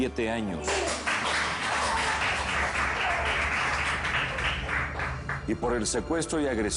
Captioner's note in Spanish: Aplausos